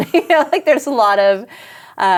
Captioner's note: laughs